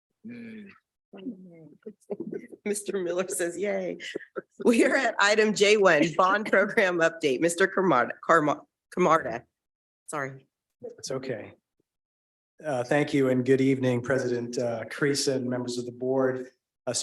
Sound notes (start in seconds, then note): 2.0 chuckling; 4.0 chuckling